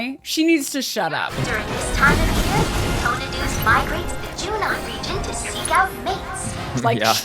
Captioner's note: jabbering on over battle